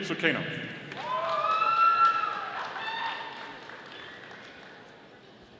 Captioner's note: audience applauding